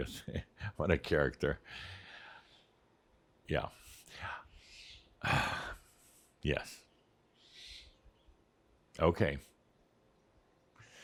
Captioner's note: Adamus chuckles; Adamus exhales audibly, as he’s talking to Edith